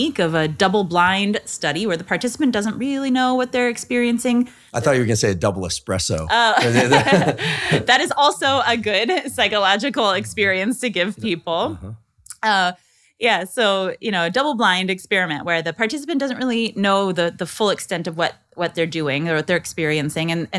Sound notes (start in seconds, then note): 6.4 laughing